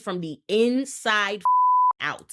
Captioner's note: beep